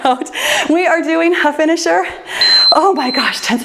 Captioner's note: timer beeps